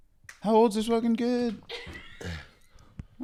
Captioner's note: laughs